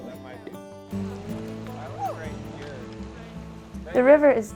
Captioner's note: indistinct chatter